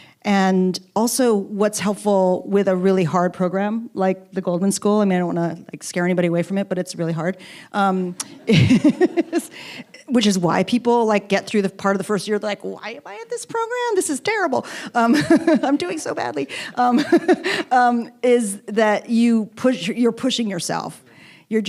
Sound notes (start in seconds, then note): 8.2 both laughing